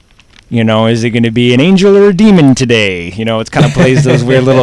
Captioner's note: laughs